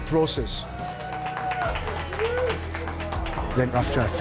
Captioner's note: swimmers cheering